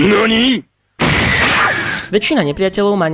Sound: explosion sound

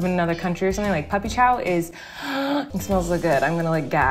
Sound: gasps

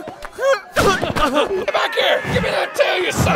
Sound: grunting

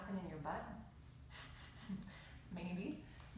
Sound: laughter

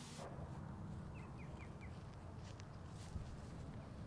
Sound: bird song

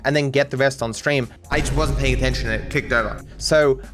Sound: voice echoes

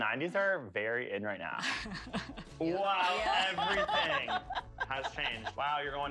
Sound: laughter

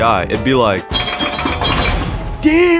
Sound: pinball noises

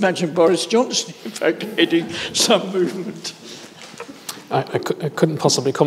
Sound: chuckles

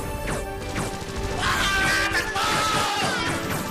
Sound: gunfire; screams; gunfire continues

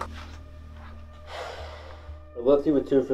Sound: Clint sighs

